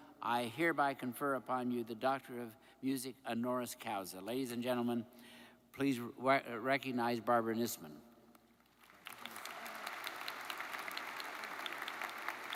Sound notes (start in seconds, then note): 8.7 audience applauds